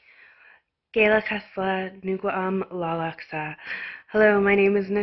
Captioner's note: speaks in her language